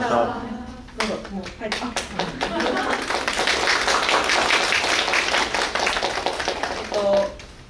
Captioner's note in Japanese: 拍手